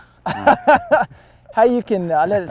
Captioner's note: laughter